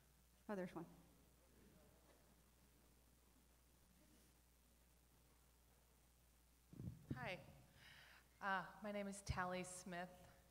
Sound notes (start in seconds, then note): none